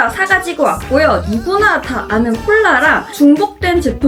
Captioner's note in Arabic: يضحك